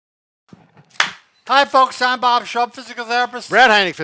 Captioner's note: claps